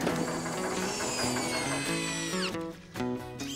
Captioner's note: drill Whirrs